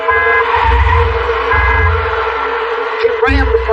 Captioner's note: honks rnrn